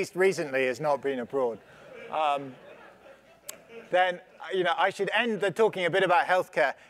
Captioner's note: laugh